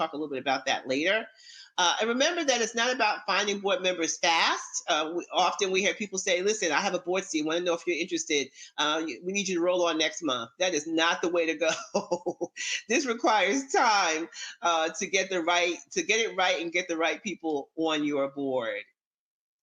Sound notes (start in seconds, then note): 12.7 laughs